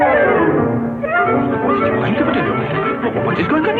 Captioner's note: conversing in french